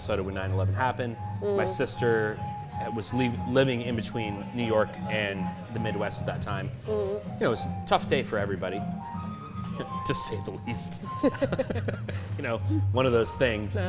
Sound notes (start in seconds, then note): 11.1 laughs